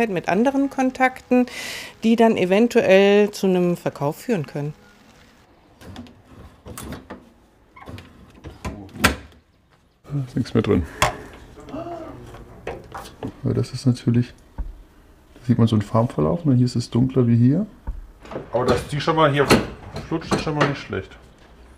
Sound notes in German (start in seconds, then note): 7.7 Quietschen